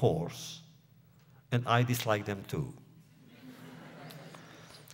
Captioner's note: laughter